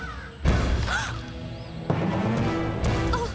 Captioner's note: gasps